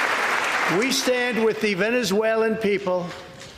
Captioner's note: applause